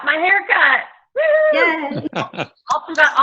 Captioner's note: cheers; laughs